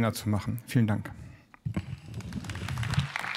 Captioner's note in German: Beifall